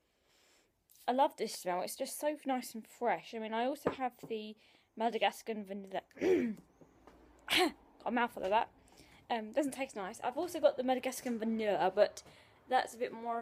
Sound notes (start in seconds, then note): 0.2 sniffs; 6.2 clears throat